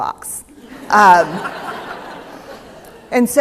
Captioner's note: laughter